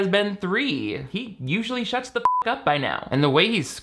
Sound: beep

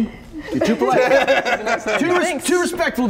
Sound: laughter

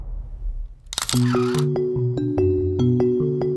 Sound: camera clicking; bright music

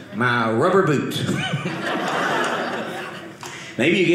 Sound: audience laughing

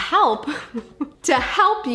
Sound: laughing

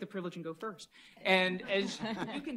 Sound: laughter

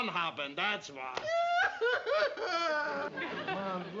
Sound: aunt sophie crying

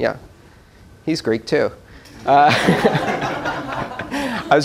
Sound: laughter

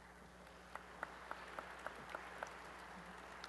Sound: applause

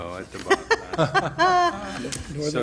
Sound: laughter

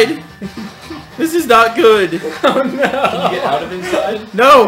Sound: laughing

